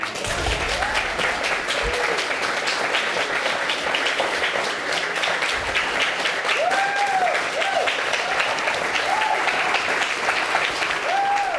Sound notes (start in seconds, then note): 0.1 audience applauding; 6.6 audience cheers